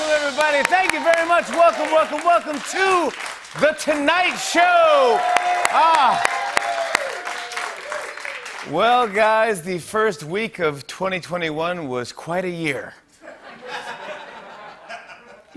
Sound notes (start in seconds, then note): 5.2 cheering and applause; 13.2 laughter